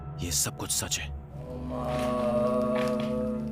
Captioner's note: chanting in foreign language